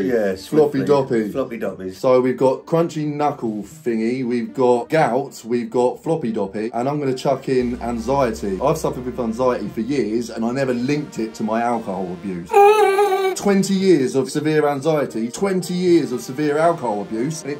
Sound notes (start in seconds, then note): 12.5 host high pitch screaming